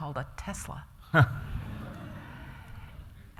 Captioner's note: laughter